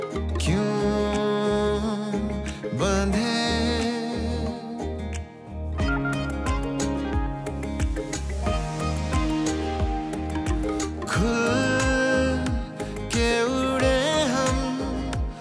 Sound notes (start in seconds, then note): none